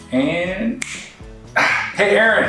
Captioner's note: finger clicks